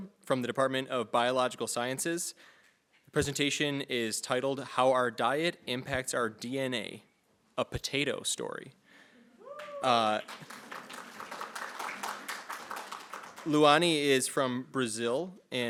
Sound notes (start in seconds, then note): 9.5 audience applauding